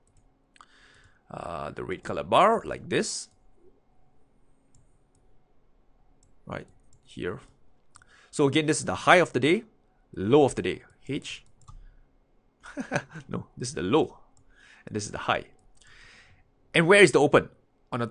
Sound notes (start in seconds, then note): 12.6 laughs